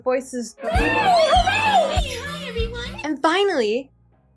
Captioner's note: Cheer Bear's pitchy voice